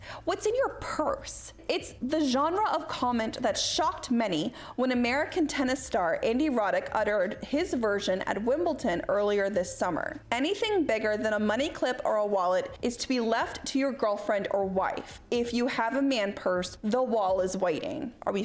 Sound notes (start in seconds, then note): none